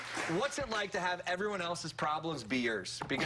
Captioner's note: applause